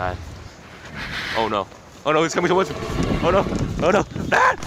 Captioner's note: screaming